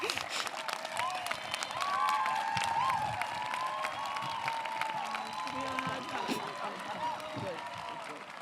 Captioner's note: applause